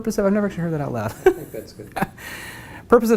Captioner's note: laugh